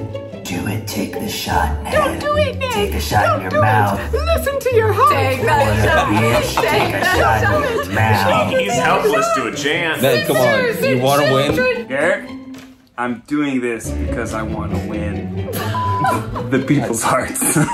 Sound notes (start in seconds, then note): 7.2 all shouting; 15.5 laughing